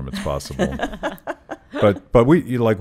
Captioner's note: laughing